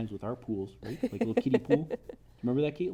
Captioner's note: laughs